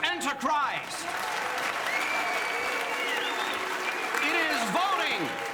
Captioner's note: audience cheers and applauds